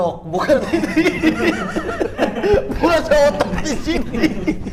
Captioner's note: laughing